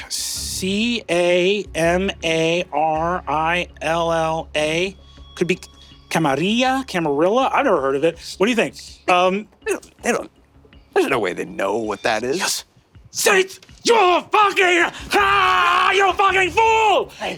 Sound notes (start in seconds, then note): 5.8 Spanish accent; 14.8 screaming in rage